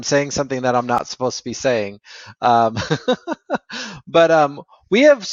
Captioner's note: laughs